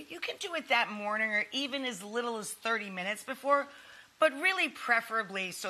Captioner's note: none